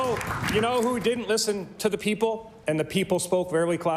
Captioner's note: applause